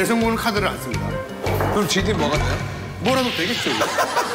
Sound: laugh

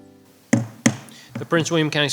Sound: gavel banging

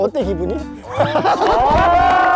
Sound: laughing along22

